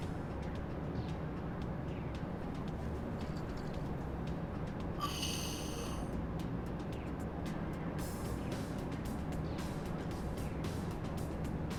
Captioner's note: air escaping